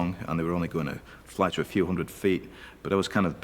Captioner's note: none